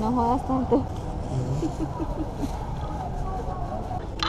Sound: ha ha ha

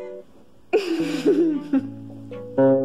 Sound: laughter

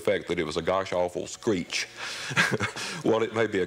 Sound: laughs

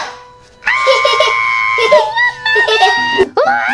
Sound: Romeo screams

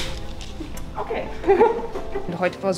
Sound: laughter

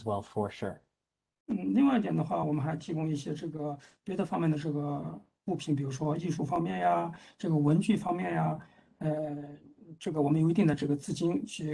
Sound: speaks in Mandarin

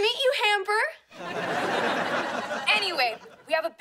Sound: laughing

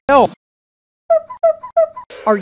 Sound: squeaking noise

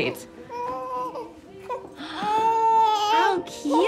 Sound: baby crying

